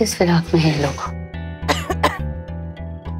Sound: coughing

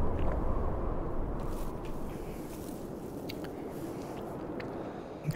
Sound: wind blowing; rustling of tumbleweed

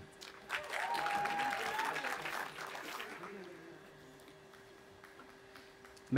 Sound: audience applauding and cheering

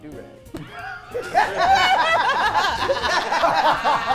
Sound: group laughs

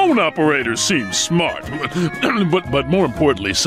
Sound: clearing throat

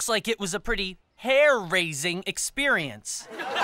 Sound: all laughing

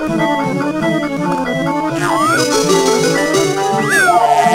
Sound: telephone ringing

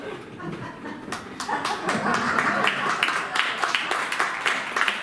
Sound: applause

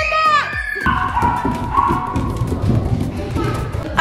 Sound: cheers

